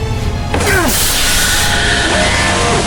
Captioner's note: Hawk grunts; air whooshes; alarm blaring